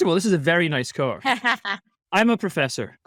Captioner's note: laughing